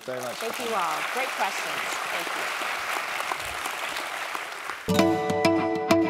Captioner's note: applause